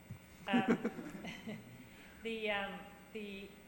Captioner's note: chuckling